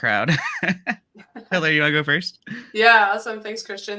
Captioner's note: laughs